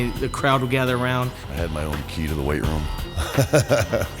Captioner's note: laugh